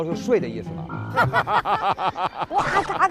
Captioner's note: hahahaha